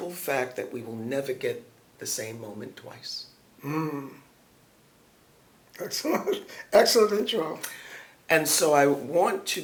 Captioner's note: laughs